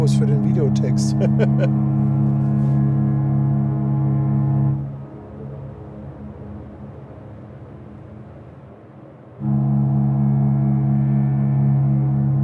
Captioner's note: laugh